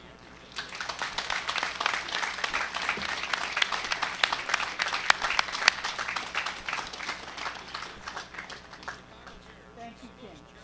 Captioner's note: applause